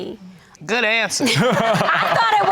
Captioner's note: laughing